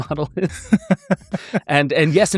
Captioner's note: laughing